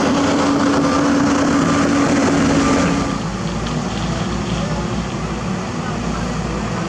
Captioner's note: JCB Engine